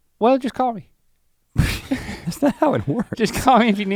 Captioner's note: sputters